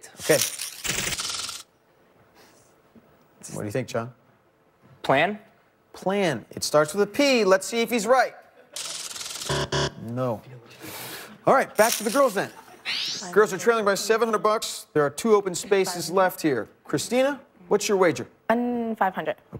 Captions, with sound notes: I'll go with a hundred below STATE. What do you think, John? PLAN. PLAN. It starts with a P. Let's see if he's right. [buzzer] No. All right, back to the girls then. Girls are trailing by 700 bucks. There are two open spaces left here. Christina, what's your wager? Um, 500.